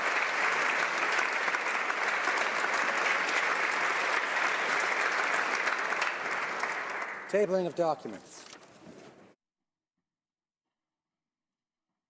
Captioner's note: applause